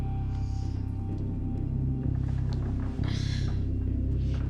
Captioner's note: creaking